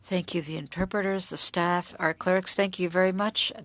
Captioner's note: speaking French